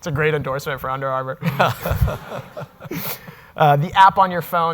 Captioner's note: audience laughing